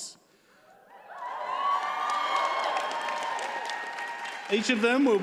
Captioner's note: audience cheers and applauds